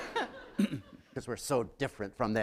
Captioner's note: laughter